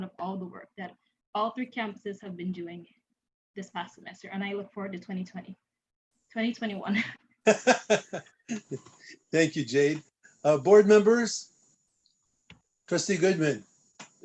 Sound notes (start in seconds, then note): 7.4 laughter